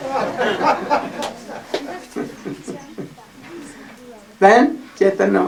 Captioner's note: laughter